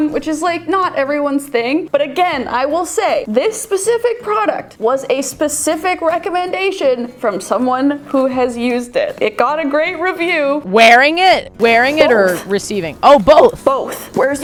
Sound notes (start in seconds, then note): none